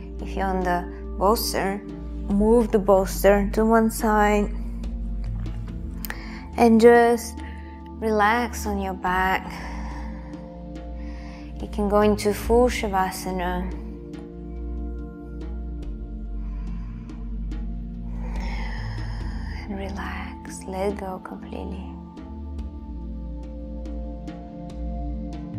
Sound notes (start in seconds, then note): 19.1 exhaling; 22.6 meditative music